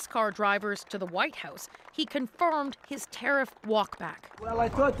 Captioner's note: applause